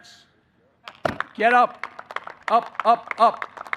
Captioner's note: applause